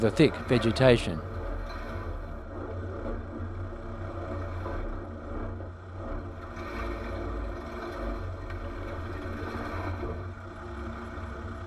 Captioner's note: vehicle sounds